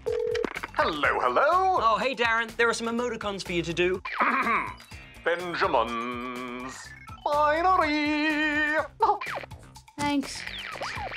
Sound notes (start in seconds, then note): 4.2 clears throat; 9.0 chuckles